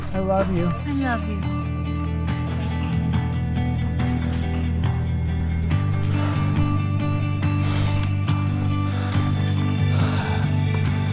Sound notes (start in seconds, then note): 2.8 footsteps crunching; 4.8 breathing heavily